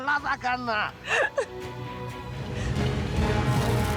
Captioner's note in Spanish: ella llora